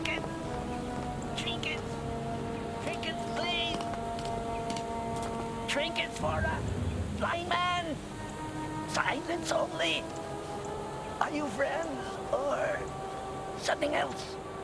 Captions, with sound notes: - Trinkets. Trinkets. (tapping) Trinkets, please. Trinkets for a blind man. Silence only? Are you friends or something else?